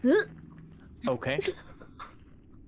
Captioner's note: gasps